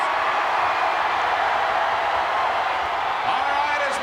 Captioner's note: crowd cheering